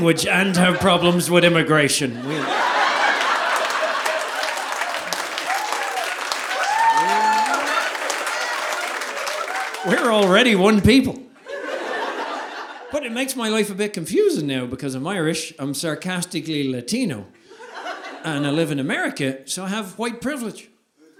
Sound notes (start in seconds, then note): 2.2 audience applauding; 2.7 audience laughing